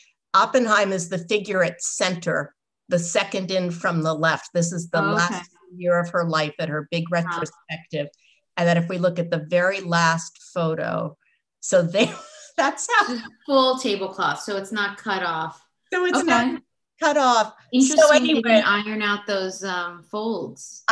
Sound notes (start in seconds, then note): 11.9 laughter